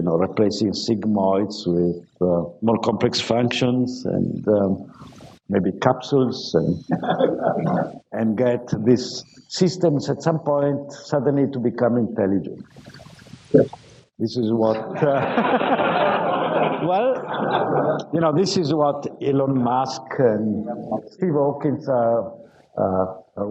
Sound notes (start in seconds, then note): 14.7 laughter